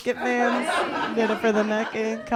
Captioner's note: laughter